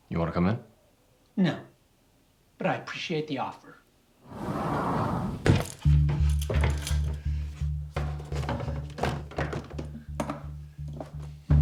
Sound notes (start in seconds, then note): 4.2 door sliding shut; 6.8 tense music